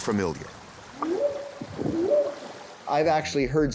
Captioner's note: whooping sound